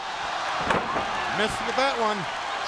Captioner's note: crowd cheering